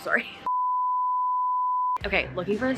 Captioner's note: signal droning